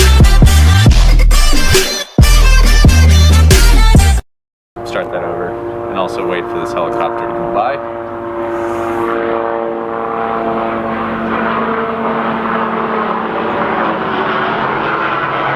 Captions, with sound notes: Start that over and also wait for this helicopter to go by. (helicopter engine)